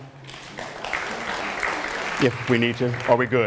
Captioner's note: applause